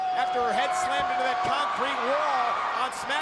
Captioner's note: audience cheering